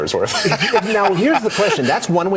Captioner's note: man laughing